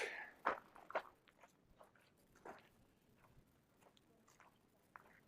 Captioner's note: gravel crunching